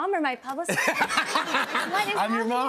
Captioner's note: laughter